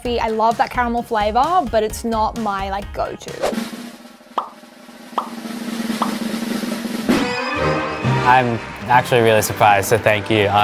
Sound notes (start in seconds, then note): 4.4 bubbles popping; 7.2 uplifting music